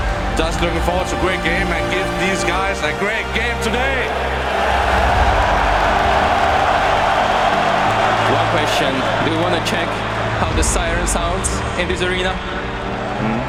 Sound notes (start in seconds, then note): 4.1 crowd cheering